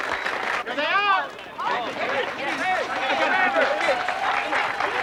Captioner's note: chattering; applauding